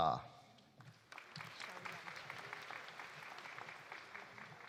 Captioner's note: audience applauding